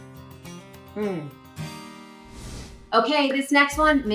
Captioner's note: air whooshes